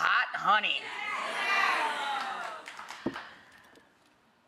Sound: audience cheers

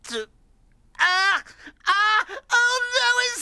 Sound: yells

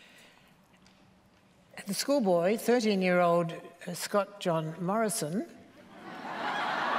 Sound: laughter

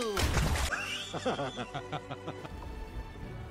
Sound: evil laugh

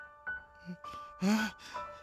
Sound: breathing heavily

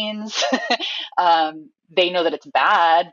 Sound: laughs

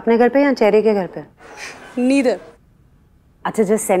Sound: sighs

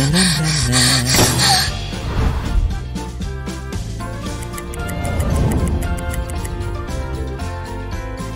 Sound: panicky breathing

